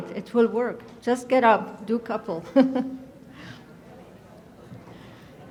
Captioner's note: laughs